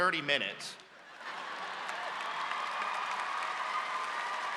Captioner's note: audience cheers